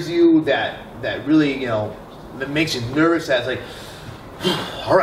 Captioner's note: sigh